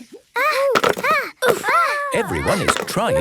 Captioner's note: all grunting